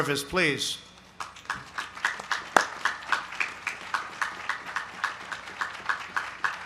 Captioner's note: applause